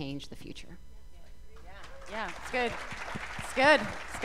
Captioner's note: applause